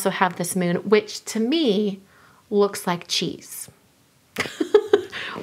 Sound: laughs

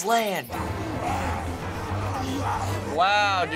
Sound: zombies snarl

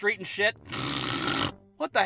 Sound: snoring from the inside

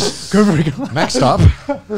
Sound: laughs

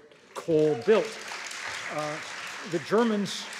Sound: audience applauds

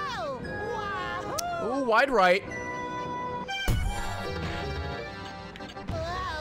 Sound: laughs

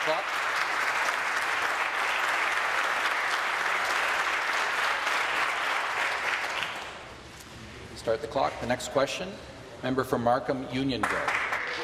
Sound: applause

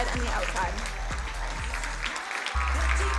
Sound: crowd applauding

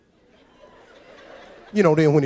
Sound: audience laughs

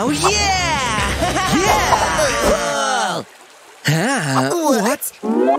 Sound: groans; making happy sounds

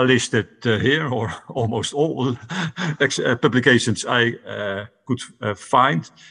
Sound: laughs

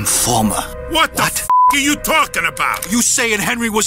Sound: beep

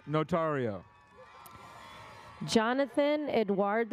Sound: audience cheers

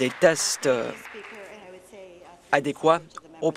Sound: some Applause

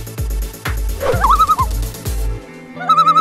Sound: loon call

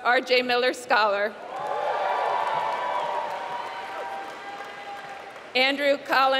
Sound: applause

